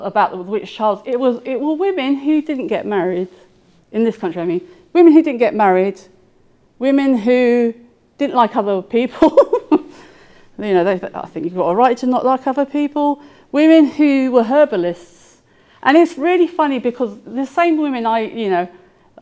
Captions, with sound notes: about the witch trials, it was, it were women who didn't get married in this country, I mean. Women who didn't get married, women who didn't like other people. (laughing) You know, they, I think you've got a right to not like other people, women who were herbalists. And it's really funny because the same women, I, you know,